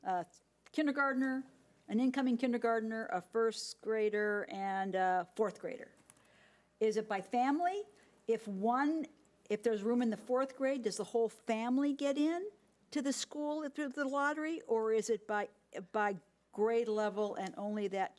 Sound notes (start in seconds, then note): none